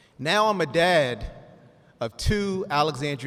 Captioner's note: none